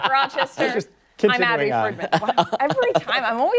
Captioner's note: laughter